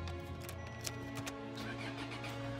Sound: engine starts

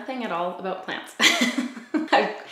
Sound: laughs

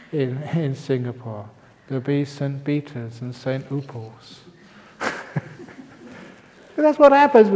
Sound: laughs

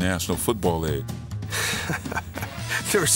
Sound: chuckles

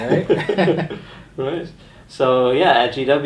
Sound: chuckles

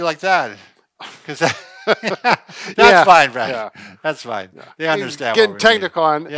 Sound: laughs

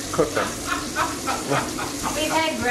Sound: laughing

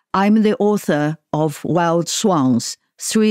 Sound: none

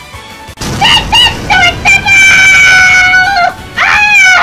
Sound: more pain

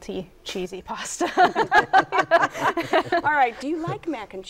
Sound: laughter

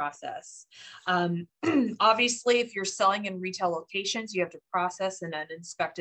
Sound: cough

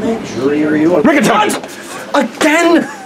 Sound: screams

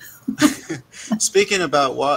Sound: chuckling

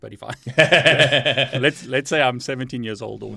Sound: chuckles

